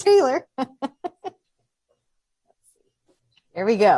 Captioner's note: laughing